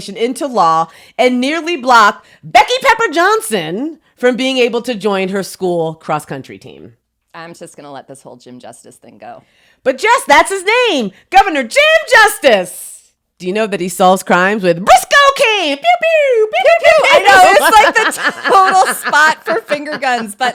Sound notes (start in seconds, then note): 16.0 imitates gun shots, then laughs